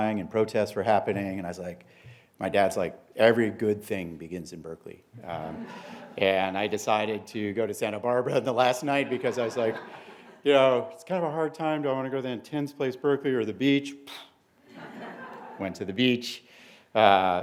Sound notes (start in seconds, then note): 5.4 laughter; 14.2 poof; 14.6 laughter